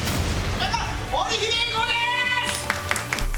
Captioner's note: aplause